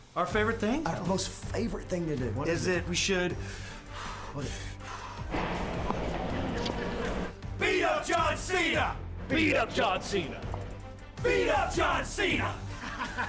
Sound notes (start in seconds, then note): 3.4 breathes deeply